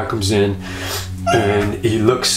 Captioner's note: squacks